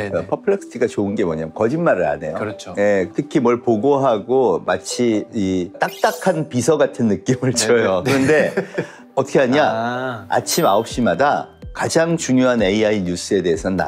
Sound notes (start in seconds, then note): 8.0 laughter